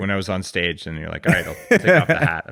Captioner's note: laughs